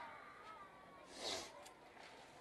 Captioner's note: sniffles